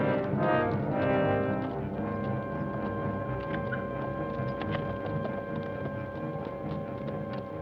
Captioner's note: suspenseful orchestral music; distant hooves clop